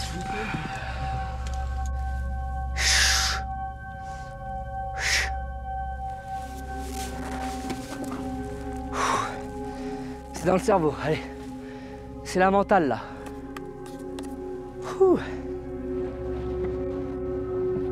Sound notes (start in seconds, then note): 10.5 effort; 14.9 sigh